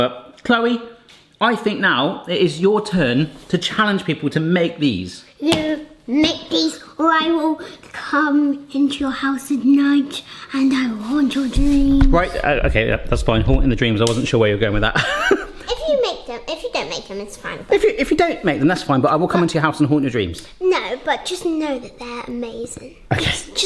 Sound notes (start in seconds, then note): 5.4 hands slap; 14.9 laughs